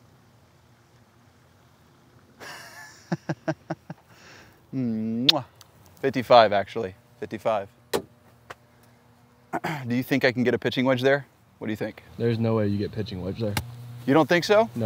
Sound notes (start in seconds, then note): 2.4 laughs; 5.2 kisses